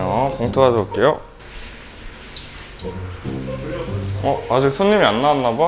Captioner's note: the sound of water in the shower